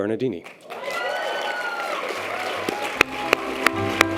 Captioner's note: audience applause and cheers; piano music